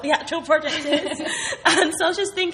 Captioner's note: laughing